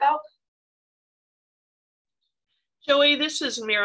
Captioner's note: silence